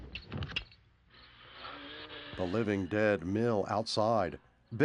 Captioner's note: groaning